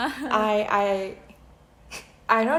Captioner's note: nervous laugh